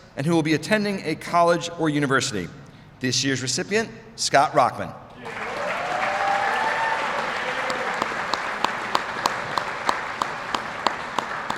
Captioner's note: applause